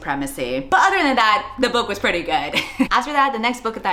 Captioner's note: laughs